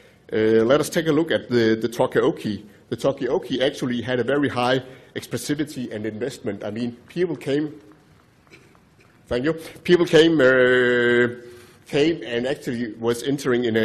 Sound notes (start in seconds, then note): 7.3 applause